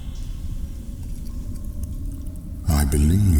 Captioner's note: cave noises